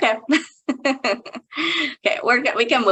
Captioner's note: chuckling